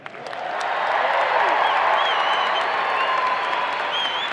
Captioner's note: audience applauding